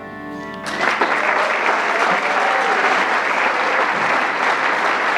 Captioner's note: audience clapping